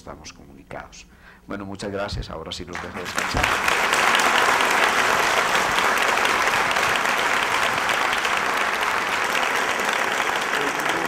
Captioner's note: long aplause